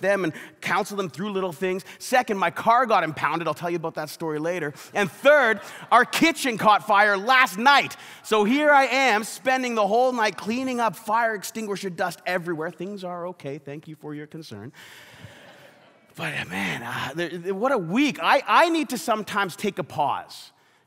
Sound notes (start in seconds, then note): 5.0 congregation laughs; 15.1 congregation laughs